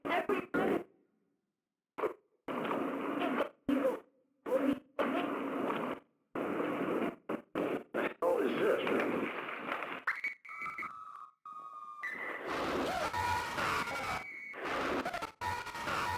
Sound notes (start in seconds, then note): 10.3 distorted screaming